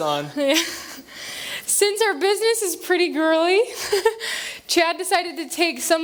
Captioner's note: laughther